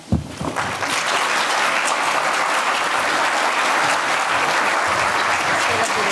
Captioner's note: audience Applauds